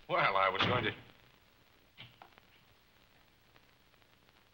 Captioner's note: door slamming